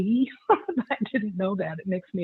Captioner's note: laughs